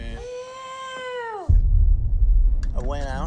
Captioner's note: howl